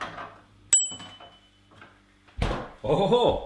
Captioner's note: bell dings